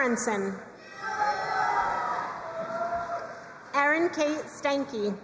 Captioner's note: crowd cheering and applauding